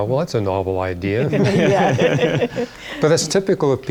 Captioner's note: laughter